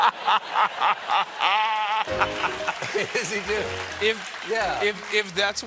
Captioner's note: laughter